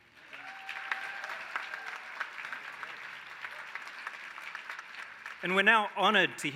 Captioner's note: applause